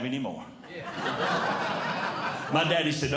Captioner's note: audience Laughing